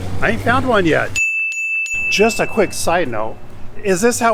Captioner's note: chime ringing